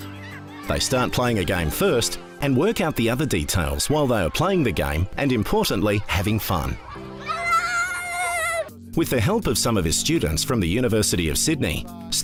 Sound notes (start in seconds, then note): 7.1 children laughing and yelling